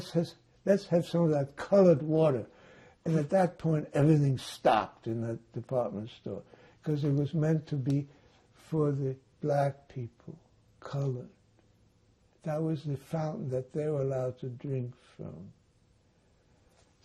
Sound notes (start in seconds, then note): none